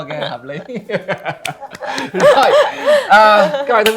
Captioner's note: laugh